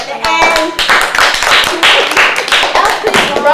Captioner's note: applause